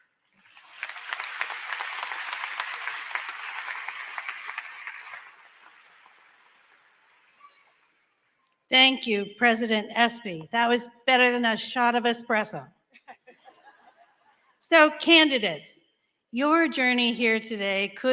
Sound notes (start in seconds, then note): 4.1 applause; 12.9 laughing